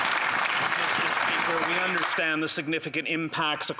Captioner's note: applause